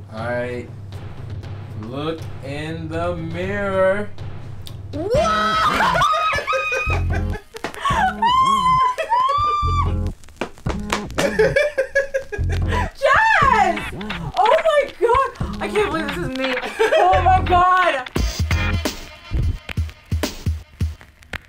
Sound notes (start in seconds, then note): 7.9 screams; 8.2 laughs; 18.2 funky music